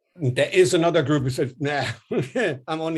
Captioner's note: laughs